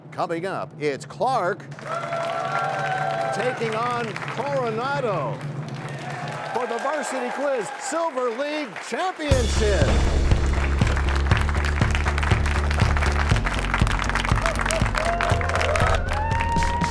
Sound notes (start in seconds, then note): 1.9 cheers and applause; 5.6 cheers and applause; 9.4 crashing sound